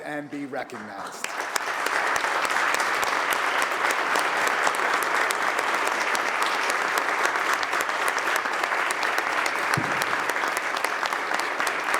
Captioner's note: applause